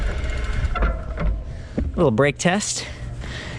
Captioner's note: brakes squealing